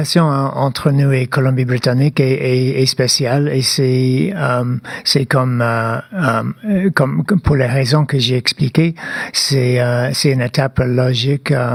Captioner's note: speaking French